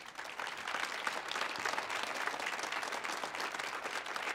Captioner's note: audience applauding